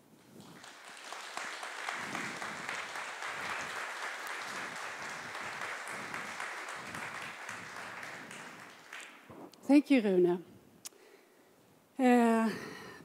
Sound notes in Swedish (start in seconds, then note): 0.7 Applause